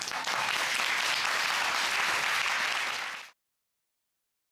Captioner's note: audience applauding